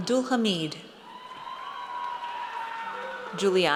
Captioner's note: audience cheers